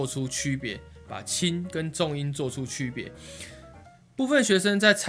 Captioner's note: normal tone